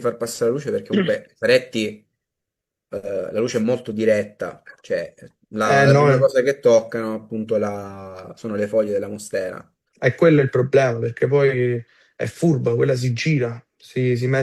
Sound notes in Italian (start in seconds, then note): 0.9 schiarire la voce